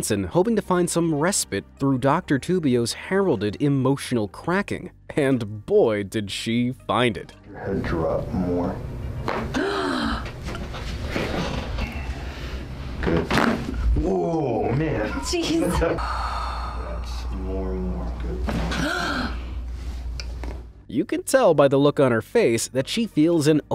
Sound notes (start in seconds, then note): 9.5 patient gasps; 9.5 bones crack; 13.2 bones crack; 17.0 laughs; 18.7 patient gasps